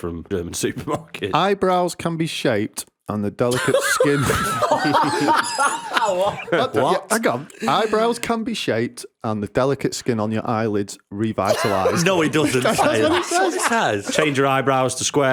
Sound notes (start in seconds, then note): 3.5 laughter